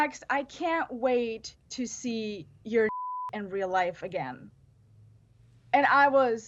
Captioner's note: beep